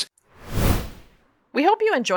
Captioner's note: whoosh Sound